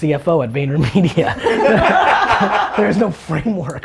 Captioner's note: laughter